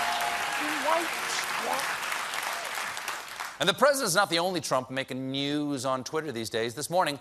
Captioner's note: applause